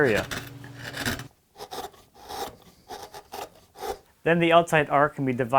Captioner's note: chisel scraping